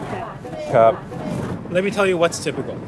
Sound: speaking foreign language

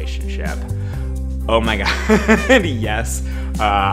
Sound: laughs

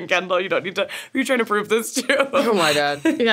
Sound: laughs

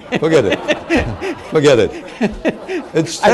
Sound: laughter

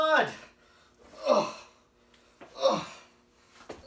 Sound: groaning noises

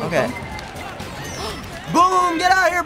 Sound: gasps

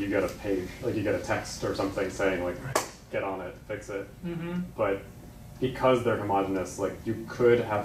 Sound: clap

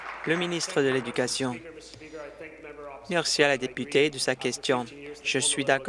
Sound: applause

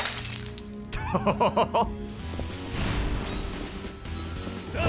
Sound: laughs

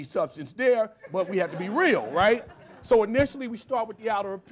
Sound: laughter

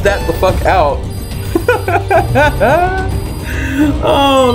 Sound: laughing

